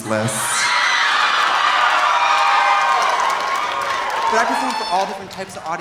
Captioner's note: audience cheering; audience applauding